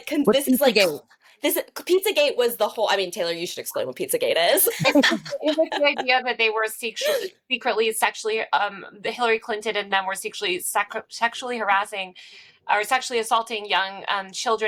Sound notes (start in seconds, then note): 4.6 laughing